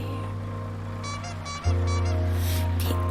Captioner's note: horn squeaking